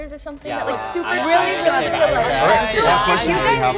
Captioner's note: crowd agrees